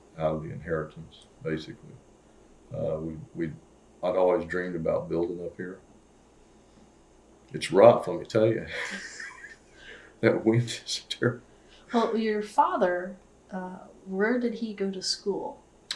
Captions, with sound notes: out of the inheritance, basically. I’d always dreamed about building up here. It’s rough, let me tell me you. (Laughs) That wind is terrible. Well, your father, where did he go to school?